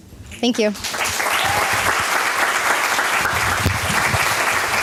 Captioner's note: applause